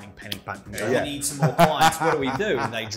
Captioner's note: laughs